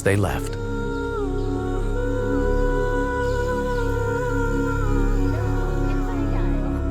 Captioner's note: gentle music continues; birds chirping